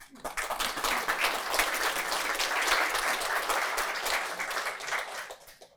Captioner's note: applause